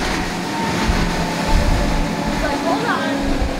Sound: Coast Guard boat engine roaring

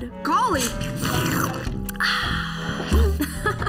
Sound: Marceline slurping; Marceline laughs

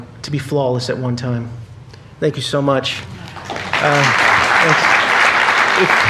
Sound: applause

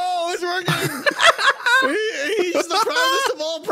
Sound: laughs

